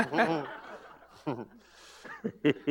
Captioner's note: laughter